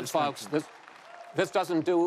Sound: applause

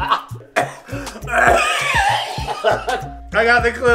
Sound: gags roughly; continues to gag roughly

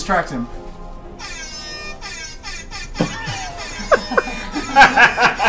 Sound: air horn blowing; all laugh

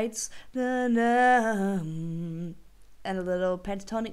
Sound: singing humming sounds

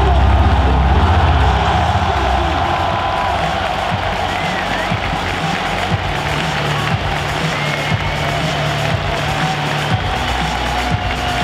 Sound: muffled cheering

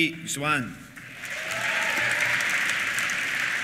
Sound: applause; cheers

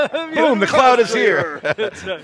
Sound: laughs

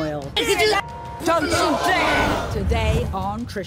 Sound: women yelling

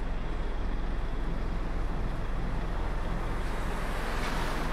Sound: none

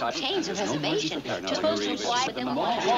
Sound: overlapping chatter

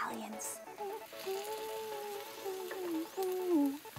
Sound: humming

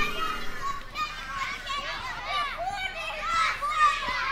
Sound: children chattering

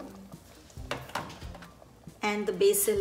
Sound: dish scuffling

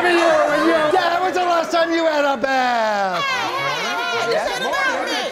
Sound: all exclaiming

